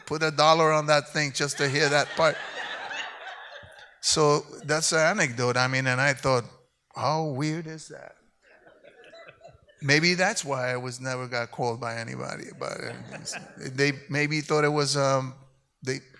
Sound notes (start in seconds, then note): 2.2 audience applauds